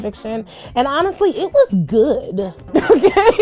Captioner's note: laughs